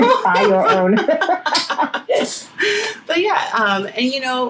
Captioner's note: laughing